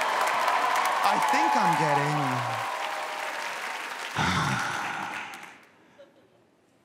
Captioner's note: audience cheers